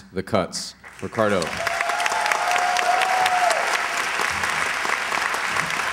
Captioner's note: applause, cheers